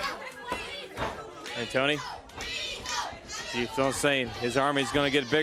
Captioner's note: crowd cheering